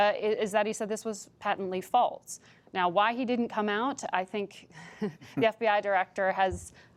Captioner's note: laughs